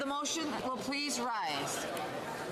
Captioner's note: speaking French